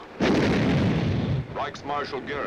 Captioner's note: bomb exploding